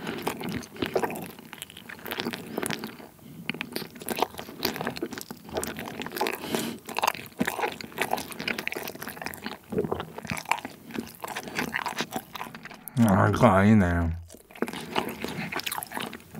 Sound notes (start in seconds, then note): 9.6 gulp